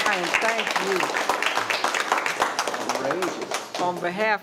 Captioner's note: all applauding